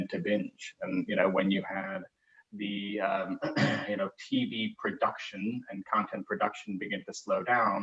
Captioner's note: cough